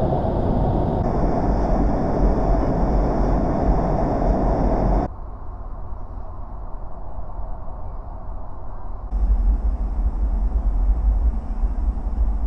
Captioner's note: airplane noises in spanish